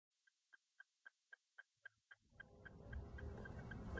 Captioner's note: ticking sound